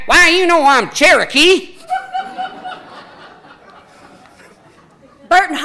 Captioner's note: audience laughing